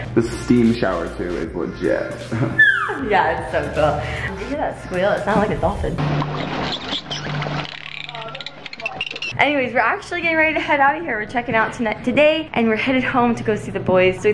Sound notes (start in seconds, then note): 2.2 laughs; 2.6 squeals; 6.3 dolphin squeals